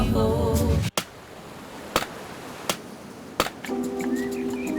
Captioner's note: waves crash; birds whistle